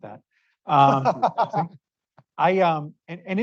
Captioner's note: laughter